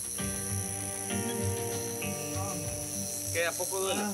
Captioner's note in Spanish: quejidos